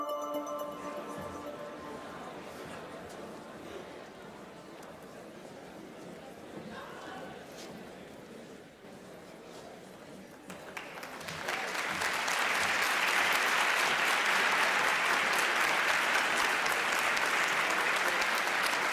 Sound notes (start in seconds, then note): 11.4 applause